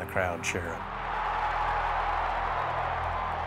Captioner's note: cheering